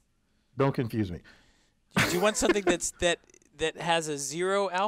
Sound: laugh

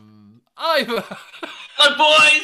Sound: laughs

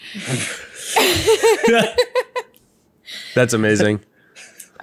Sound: all laugh

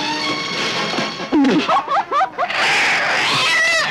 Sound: laughing

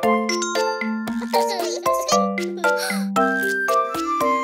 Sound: kid chuckling

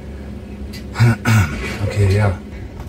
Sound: clears throat

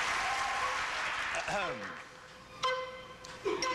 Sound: audience applauding

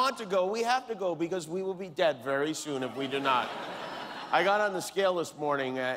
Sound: laughter

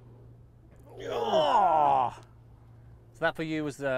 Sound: groans

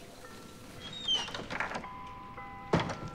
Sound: door creaks

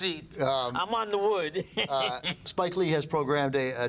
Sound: laughs

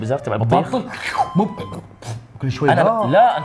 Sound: slurps, spits

